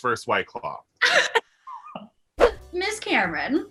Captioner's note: laughter